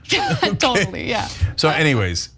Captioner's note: laugh